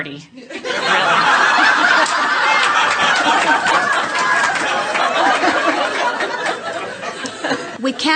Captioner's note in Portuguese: A platéia ri